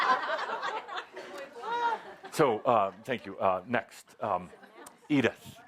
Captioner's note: laughter